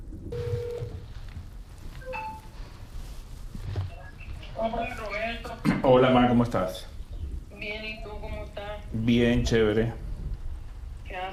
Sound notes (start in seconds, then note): 0.3 phone line rings; 2.0 alert beeps; 4.3 on phone; 11.2 on phone